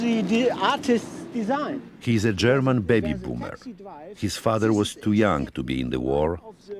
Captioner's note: voice-over